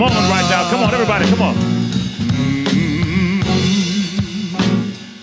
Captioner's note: humming